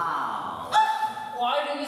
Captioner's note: OPHELIA yelps